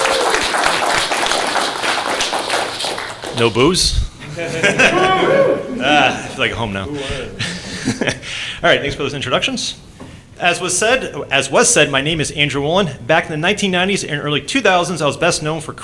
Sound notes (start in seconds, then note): 0.0 applause; 4.2 boos